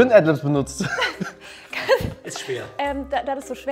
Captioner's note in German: Lachen